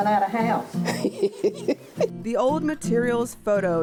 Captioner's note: laughs